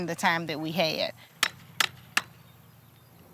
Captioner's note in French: martèlement